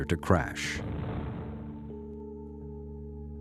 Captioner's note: explosion